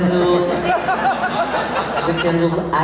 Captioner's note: laughs